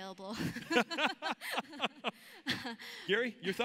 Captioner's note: laughs